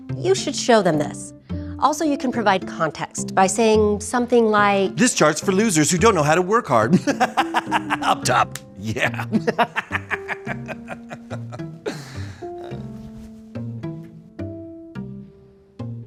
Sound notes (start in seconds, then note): 7.0 laughs loudly; 12.8 soft music